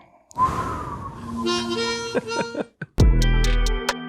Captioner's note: whooshing air; harmonica music; mellow bass-heavy music